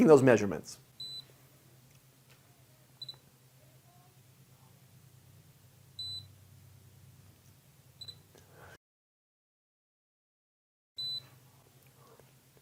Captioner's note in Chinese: 進行測量時設備會定期發出蜂鳴聲